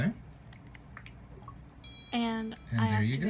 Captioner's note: ding